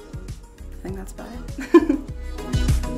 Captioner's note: laughs